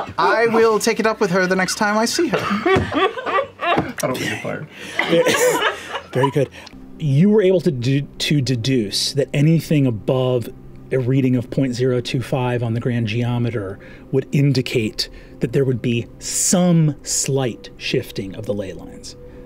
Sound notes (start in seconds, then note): 2.2 laughter